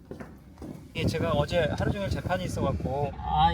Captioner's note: on the phone